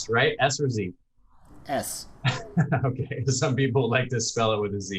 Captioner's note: chuckles